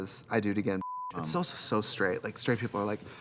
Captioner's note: beep